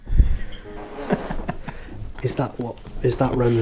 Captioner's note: laughing